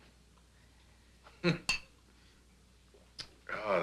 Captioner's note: chuckles